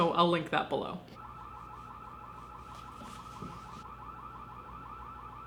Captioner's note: alarm buzzing